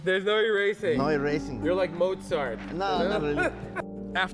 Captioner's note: laughs